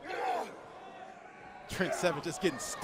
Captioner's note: crowd chatter